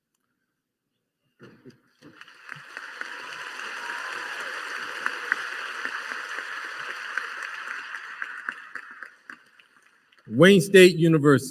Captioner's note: applause